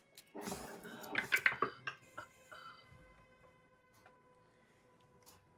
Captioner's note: dice clattering